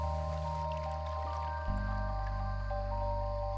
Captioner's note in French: clapotis d'eau